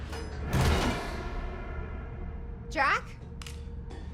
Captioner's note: hears the corridor door closing behind her